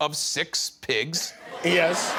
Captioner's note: laughter